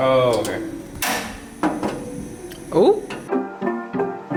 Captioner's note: click from the grill; chill pop music